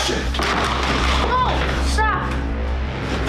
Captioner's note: objects slamming